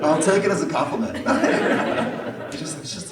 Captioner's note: laughter